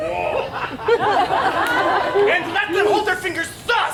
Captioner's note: audience laughs